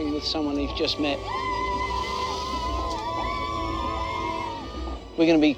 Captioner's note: african kids chanting